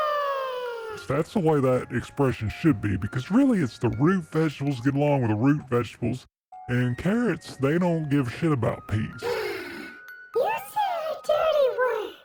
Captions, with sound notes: That's the way that expression should be. Because really it's the root vegetables get along with the root vegetables. And carrots they don't give a shit about peas. [gasp] You said a dirty word!